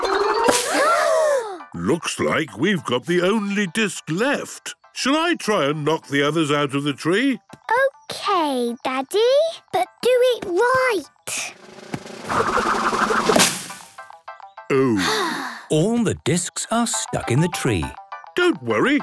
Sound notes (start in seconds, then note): 0.1 all gasping; 11.5 drum roll; 14.7 Peppa sighing